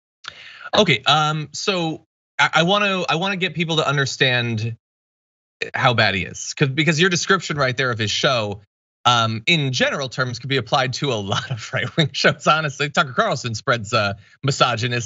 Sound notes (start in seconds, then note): 11.3 laugh